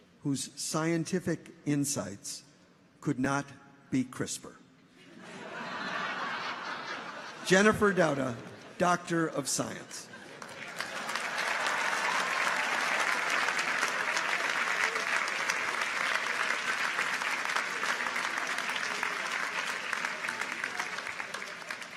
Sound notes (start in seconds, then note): 5.0 audience laughs; 10.7 audience applauds; 10.7 people cheer